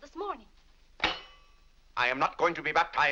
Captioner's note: silverware slams